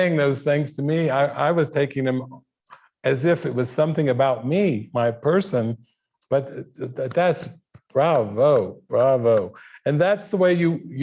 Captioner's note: clapping